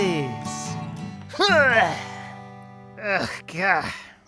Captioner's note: Tails grunts